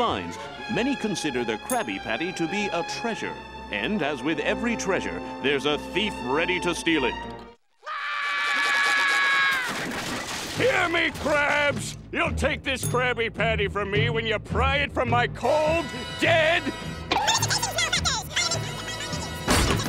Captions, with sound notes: Many consider the Krabby Patty to be a treasure. And as with every treasure, there's a thief ready to steal it. [screaming] Hear me Krabs, you'll take this Krabby Patty from me when you pry it from my cold dead-- [squeaking]